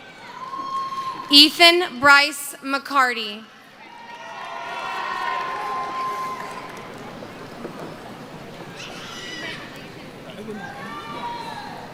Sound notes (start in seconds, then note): 6.8 cheering